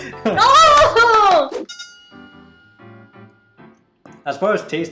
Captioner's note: clapping